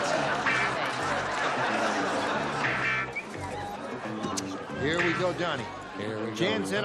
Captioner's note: laughter